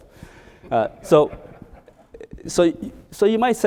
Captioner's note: audience laughing